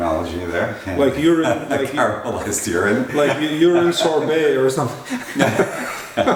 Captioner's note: laughter